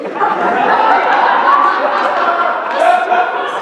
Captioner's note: laughter